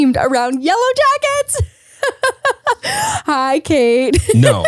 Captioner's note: laughs